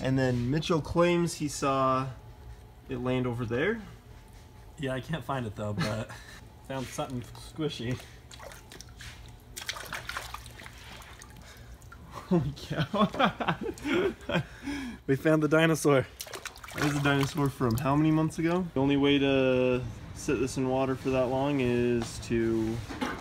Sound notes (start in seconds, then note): 5.6 laughs; 12.0 laughs